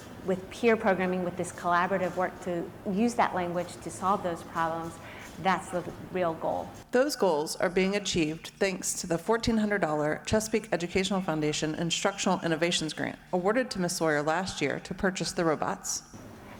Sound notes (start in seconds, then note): none